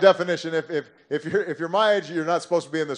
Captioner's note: laughter